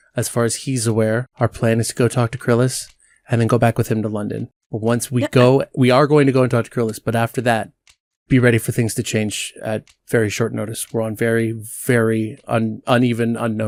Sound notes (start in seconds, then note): 4.8 splutters